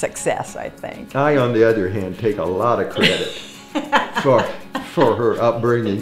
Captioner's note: laughing